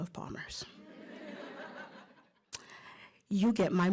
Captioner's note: laughter